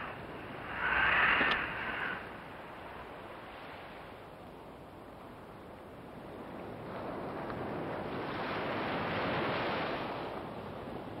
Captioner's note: wind